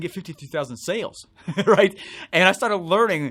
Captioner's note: laughs